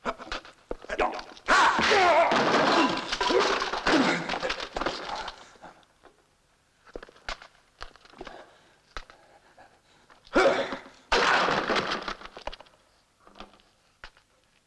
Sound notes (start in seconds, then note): 1.5 grunting; 2.1 clatter; 10.3 grunts; 11.1 clatter